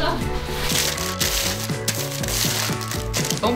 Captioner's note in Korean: 바스락 소리